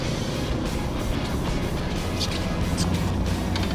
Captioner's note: birds chirping